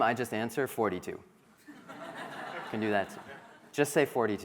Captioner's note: crowd laughing